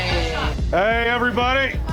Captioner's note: chatter